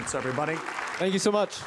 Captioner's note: participants applauding